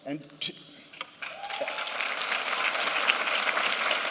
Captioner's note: applause